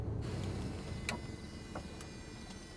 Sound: engine shuts down

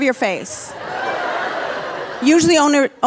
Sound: audience laughing

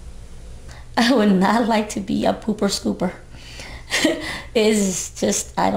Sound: laughs

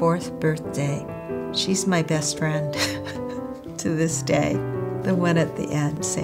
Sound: laughs

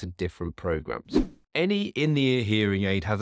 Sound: air whooshing

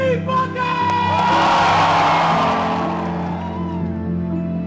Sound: cheering

